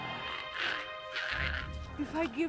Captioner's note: Giree grumbles